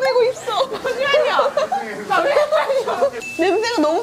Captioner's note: he's laughing as well